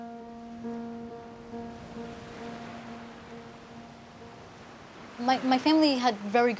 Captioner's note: waves rushing distantly